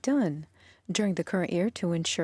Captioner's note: speaking French